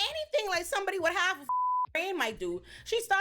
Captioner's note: beep